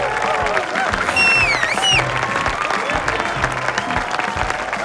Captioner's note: Mafee whistles